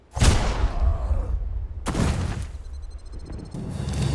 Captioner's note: gun shots